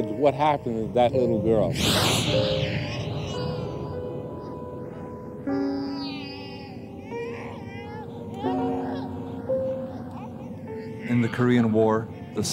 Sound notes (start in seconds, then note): 2.6 babies crying; 3.3 somber music